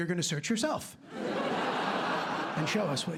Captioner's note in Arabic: ضحك